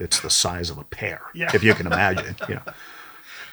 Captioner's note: laughs